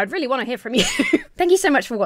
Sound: laughs

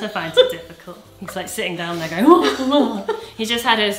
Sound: moans

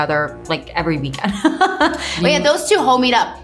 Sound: laughs

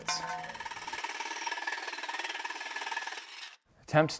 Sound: saw rattling

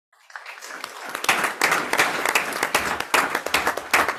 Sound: group applauds

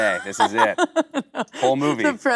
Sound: Kate laughing

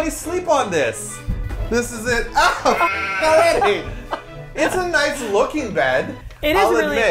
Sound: laughs

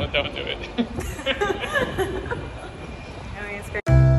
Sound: laughs

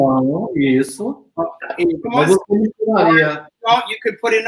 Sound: speaks portuguese

